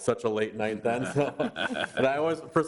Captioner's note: board laughs